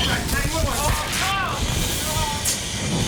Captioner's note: both yelling